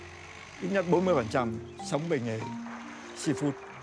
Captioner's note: speaking Vietnamese